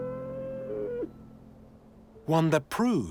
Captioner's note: yak bleats